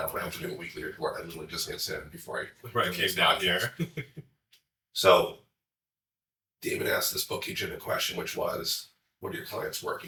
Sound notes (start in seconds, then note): 3.6 chuckles